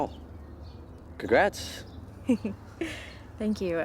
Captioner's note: laughs